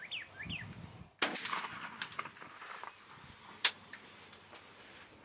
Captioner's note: shoots gun